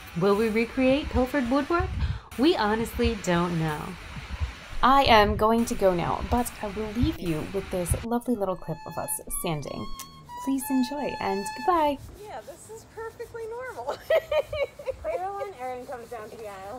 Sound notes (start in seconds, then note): 13.8 laughs